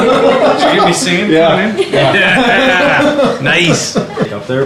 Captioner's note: laughter